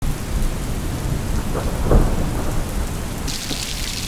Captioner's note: rain and thunder strikes in the distance; rain splashing